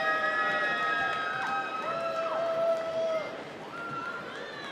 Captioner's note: applause